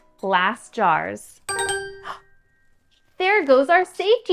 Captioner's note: chime